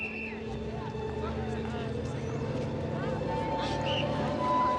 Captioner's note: whistle tweeting; tense music